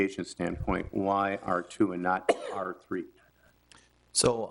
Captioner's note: woman coughs